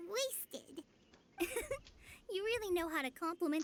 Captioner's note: laughs